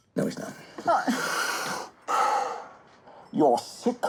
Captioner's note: heavy breathing